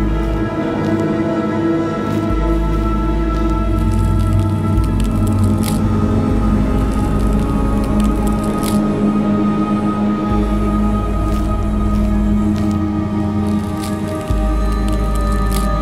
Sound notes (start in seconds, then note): 4.6 knife tearing